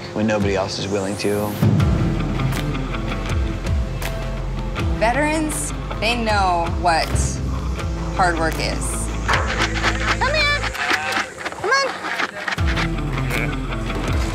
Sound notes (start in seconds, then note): 1.7 upbeat music; 9.3 food shaking in bucket; 11.8 cow moos